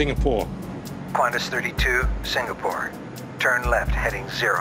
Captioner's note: man Over Radio